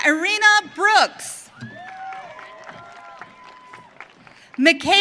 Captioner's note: audience cheering